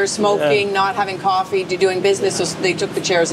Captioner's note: none